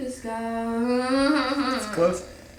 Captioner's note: whimpering